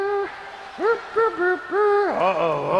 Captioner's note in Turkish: Alkış